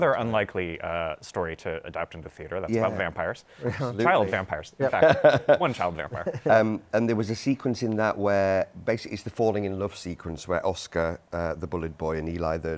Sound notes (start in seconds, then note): 5.0 laughter